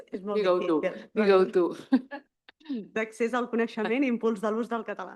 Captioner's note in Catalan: rialles